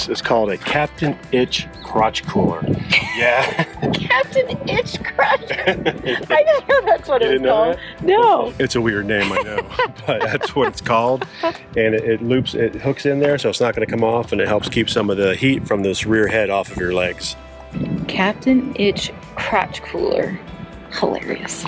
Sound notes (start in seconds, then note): 2.8 laughs; 2.8 both laugh